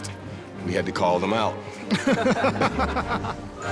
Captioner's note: laughing